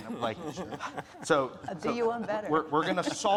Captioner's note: speakers laughing